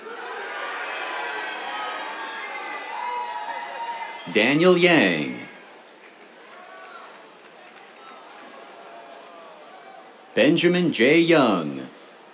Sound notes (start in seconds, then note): 0.1 cheers; 5.6 applause; 12.1 cheers